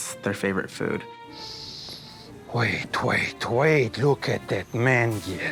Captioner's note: sniffing